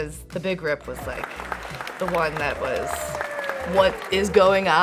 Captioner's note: audience clapping